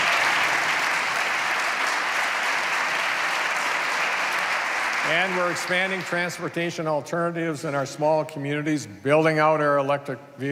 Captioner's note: applause